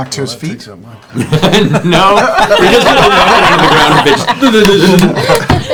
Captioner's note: laughs